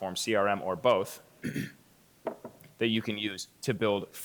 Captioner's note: clears throat